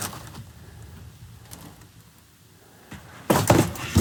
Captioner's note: box shuffling